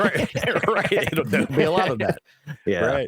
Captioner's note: laughing